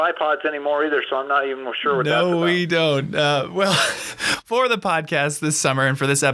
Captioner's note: laughs